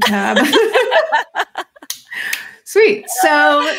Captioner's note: laughs